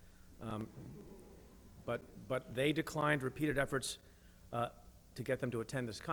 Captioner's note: chuckling